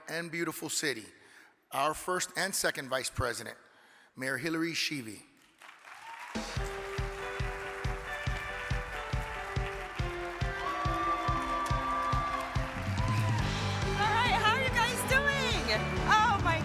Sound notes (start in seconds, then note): 5.9 upbeat music; 10.3 audience cheering